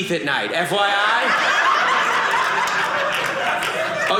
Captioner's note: audience laughing